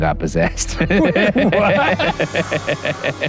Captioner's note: both laugh